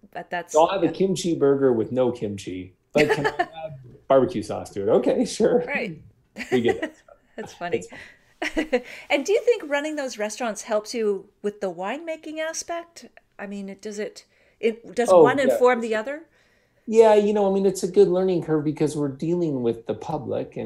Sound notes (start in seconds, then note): 6.4 laughing